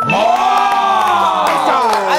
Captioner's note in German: Jubelrufe